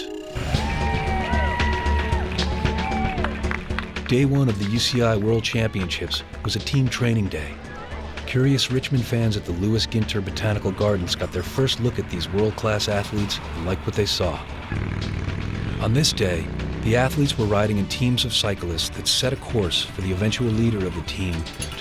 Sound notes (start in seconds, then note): 0.4 cheering and clapping; 4.0 voiceover